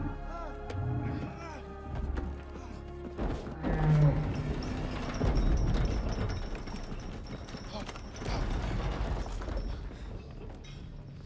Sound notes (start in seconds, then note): 0.2 grunting; 8.9 both panting